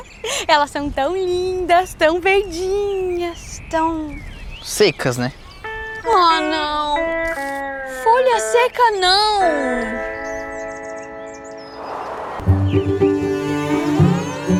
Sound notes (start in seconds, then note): 9.7 birds; 11.6 windstorm; 12.1 birds